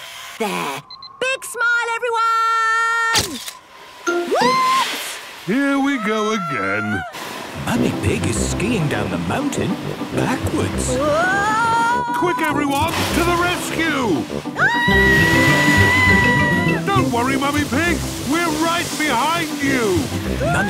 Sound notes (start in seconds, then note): 14.6 screaming